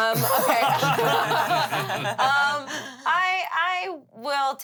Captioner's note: everyone laughs